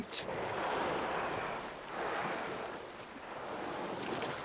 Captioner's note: whales blow water